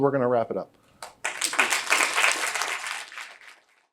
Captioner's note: applause